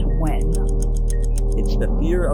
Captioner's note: clock ticks